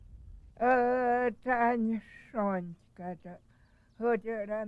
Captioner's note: speaking in native tongue